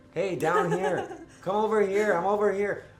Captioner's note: laughs